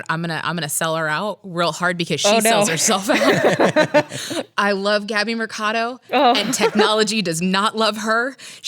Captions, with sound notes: - I'm gonna sell her out real hard because she sells herself. (laughs) - I love Gabby Mercado and technology does not love her.